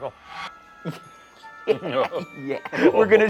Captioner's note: laughing